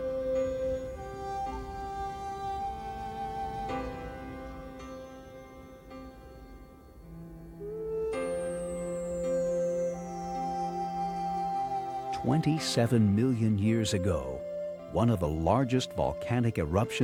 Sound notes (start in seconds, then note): 12.1 voiceover